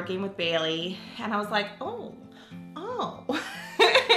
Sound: laughs

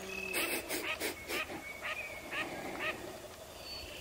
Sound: sniffing lightly

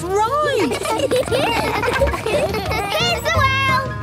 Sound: laughter

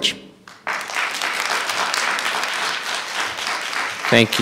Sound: audience applauding

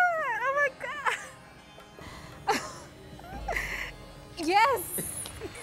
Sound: laughs

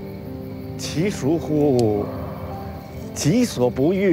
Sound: speaking Chinese

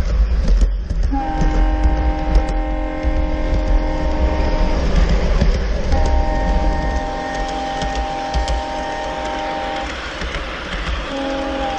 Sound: train horn

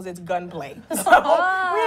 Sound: laughter

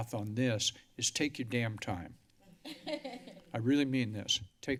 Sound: laughter

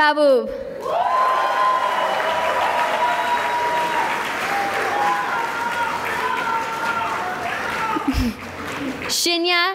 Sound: cheering and applause

